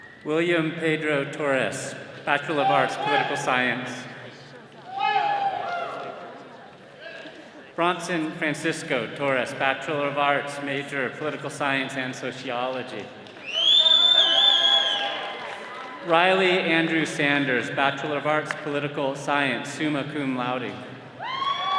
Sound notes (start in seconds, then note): 13.4 attendee whistling; 21.2 all cheering